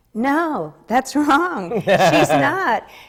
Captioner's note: laughs